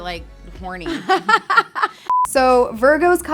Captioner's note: girls laugh